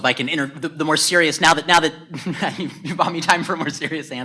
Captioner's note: laughs